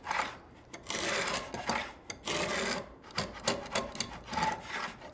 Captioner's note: tool scraping